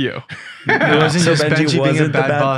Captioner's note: group laughing